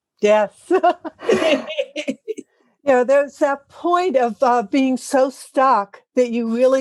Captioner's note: laugh